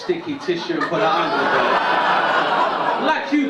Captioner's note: drowned out by audience laughter